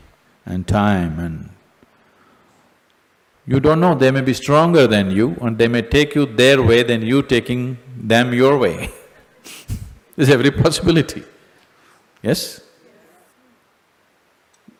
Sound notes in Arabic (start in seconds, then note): 9.2 يضحك